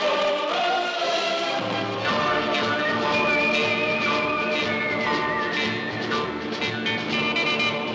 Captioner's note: none